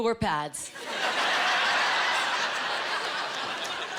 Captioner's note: laughing